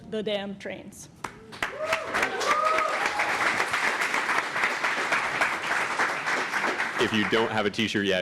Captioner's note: applause and cheering